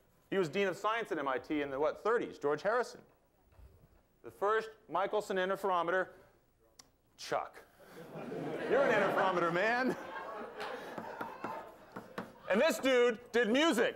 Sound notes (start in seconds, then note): 9.9 laughter